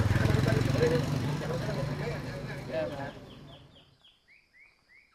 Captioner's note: birds singing